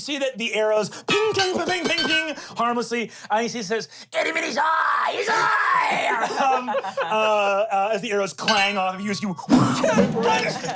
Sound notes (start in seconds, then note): 6.0 everyone laughs